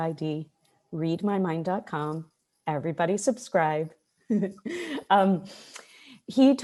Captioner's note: chuckles